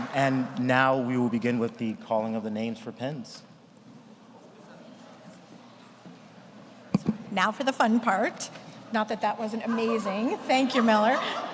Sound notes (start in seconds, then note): 5.5 people chattering